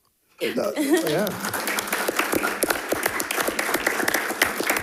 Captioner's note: attendees clapping